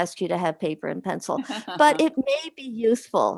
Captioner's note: chuckles